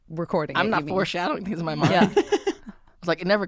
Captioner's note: laughing